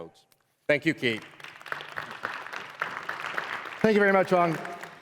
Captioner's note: applause